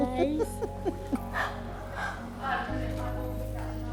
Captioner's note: both laughing